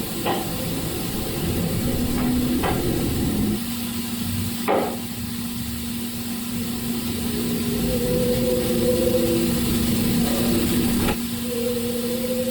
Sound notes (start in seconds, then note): 0.3 object thumping; 7.2 mysterious howling